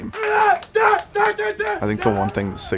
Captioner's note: team cheering